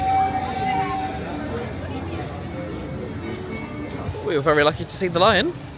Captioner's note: bright music; crowd chattering indistinctly